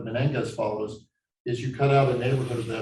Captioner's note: chalk scraping loudly